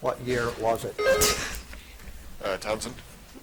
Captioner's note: buzzer chiming